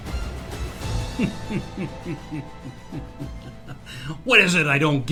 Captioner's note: man laughs